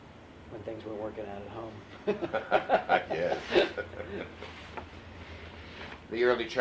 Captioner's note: laughter